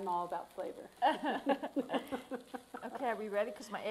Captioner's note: laughs